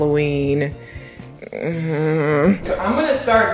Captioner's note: frustrated humming